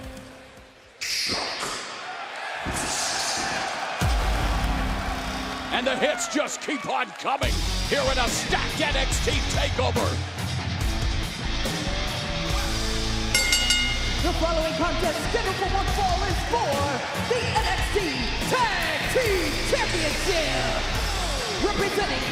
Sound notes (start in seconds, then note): 5.2 crowd cheering; 13.3 bell ringing